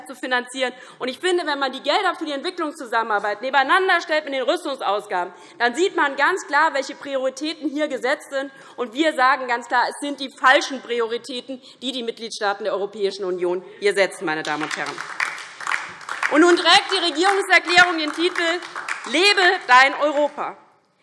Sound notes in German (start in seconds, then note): 14.4 Beifall DIE LINKE